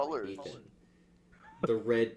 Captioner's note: wheezes